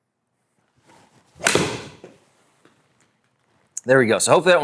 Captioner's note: ball cracking